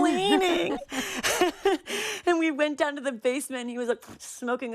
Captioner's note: laughter